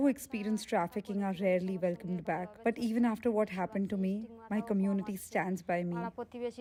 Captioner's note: speaking alternate language